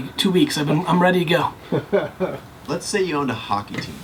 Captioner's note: laughs